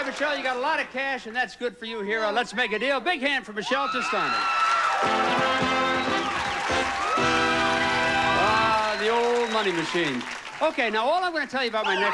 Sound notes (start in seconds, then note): 6.0 audience cheering